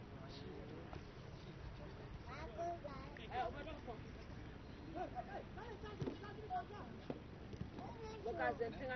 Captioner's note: Arabic